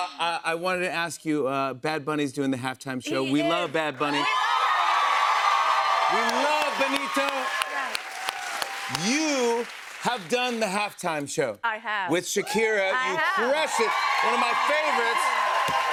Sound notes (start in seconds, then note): 4.0 cheers and applause